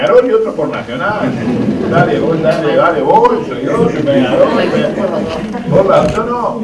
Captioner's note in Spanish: risas